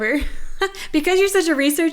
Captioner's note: laughs